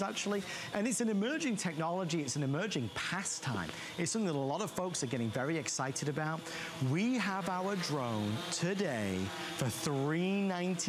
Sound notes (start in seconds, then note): none